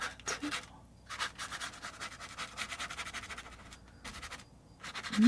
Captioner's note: scratching sounds